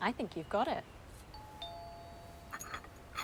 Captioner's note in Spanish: suena el timbre